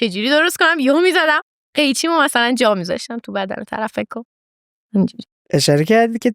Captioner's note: laughs